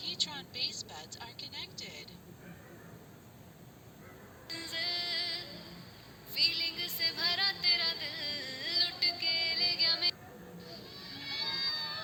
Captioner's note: dog barking